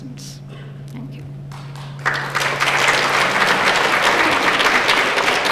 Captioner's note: applause